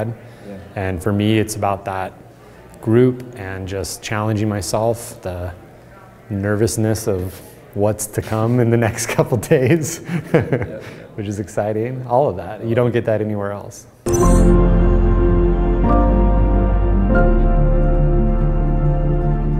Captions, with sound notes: For me, it's about that group and just challenging myself, the nervousness of what's to come in the next couple days. (laughing) Which is exciting, all of that. You don't get that anywhere else. (inspirational instrumental music)